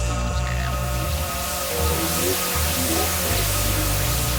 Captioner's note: static